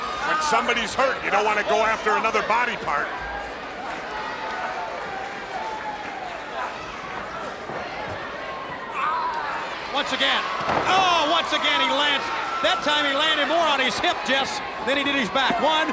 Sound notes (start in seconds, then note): 3.9 crowd cheering; 10.9 Ric thudding on ring